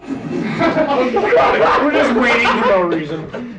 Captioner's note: men laugh